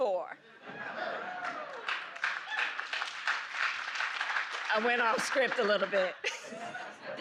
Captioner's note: applause